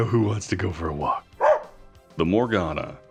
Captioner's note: woof